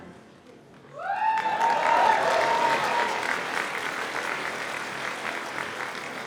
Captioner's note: audience cheers and applauds